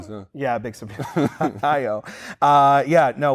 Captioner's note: laughs